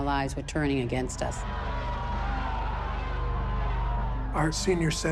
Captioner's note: protesters shouting